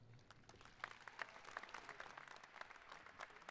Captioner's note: applauding